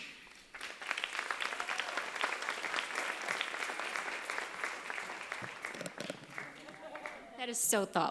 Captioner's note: applause